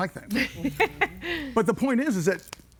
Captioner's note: laughs